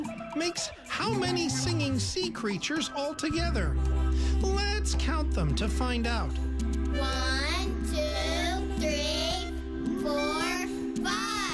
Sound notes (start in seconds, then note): none